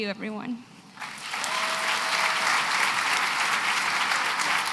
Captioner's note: applause